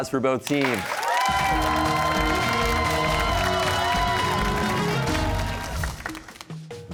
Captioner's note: cheers and applause